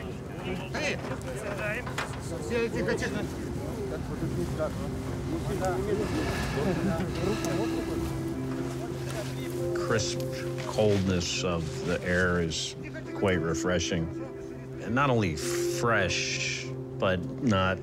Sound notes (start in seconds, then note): 0.2 men speaking Russian; 7.5 breathing deeply